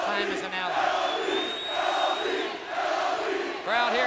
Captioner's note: crowd cheering